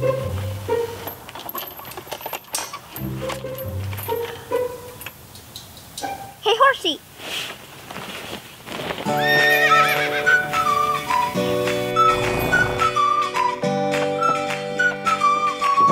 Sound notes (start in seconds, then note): 9.2 horse neighing; 10.4 cheerful music; 11.7 horse snorting